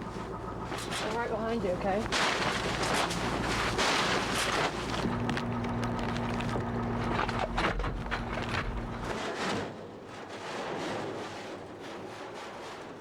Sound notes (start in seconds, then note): 2.6 gate clanking; 9.3 metal clanking